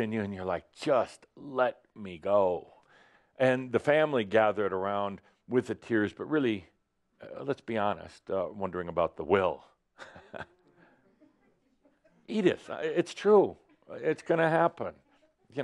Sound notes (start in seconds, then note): 10.0 Adamus chuckles slightly